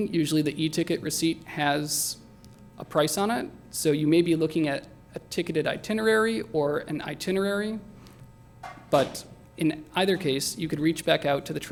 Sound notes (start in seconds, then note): none